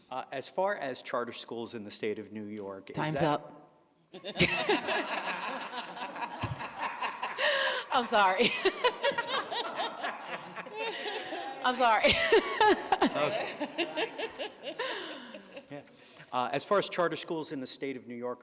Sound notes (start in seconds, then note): 5.7 laughter